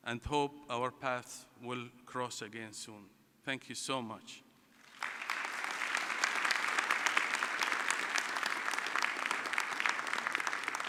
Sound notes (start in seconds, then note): 4.8 audience clapping